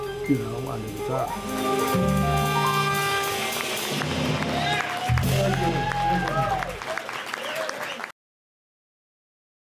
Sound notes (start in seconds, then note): 2.4 jazz music; 2.5 audience applauding